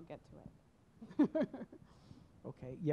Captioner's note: chuckles